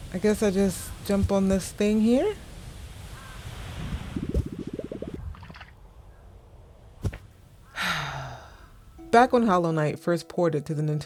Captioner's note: sigh